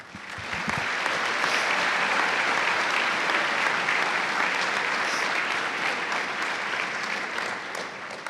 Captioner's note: cheers and applause